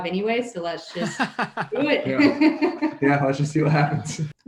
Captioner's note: laughing